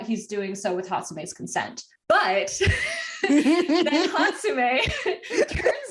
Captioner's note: wheeze